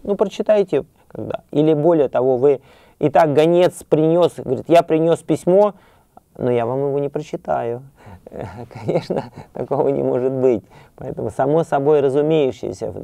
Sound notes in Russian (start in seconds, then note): 8.3 хихикает